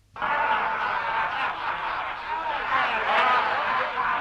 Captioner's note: chieftains laughing